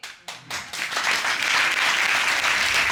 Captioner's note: audience applauds